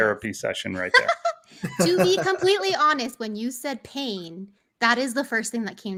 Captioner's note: giggles